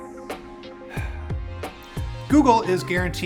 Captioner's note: sighs